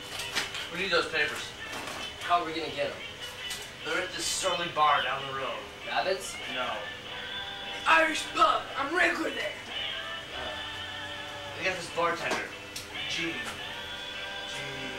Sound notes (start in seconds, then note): none